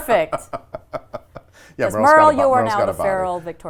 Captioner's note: laughs